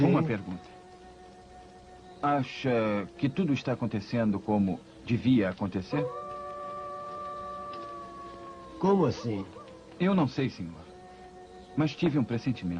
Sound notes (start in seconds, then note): 5.8 coyote howls